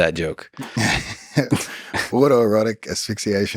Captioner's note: Craig laughs